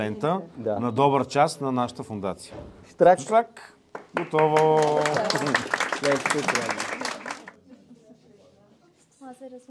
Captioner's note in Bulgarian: аплодисменти